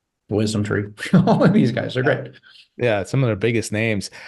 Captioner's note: laughs